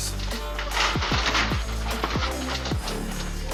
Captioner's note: gate rattles